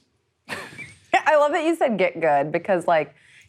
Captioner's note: laughs